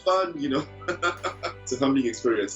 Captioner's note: laughing